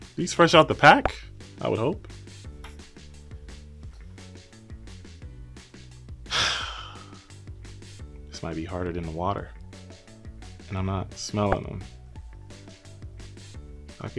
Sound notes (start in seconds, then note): 6.2 sighs